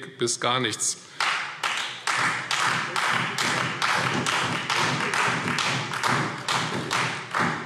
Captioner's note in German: Beifall Freie Demokraten und vereinzelt SPD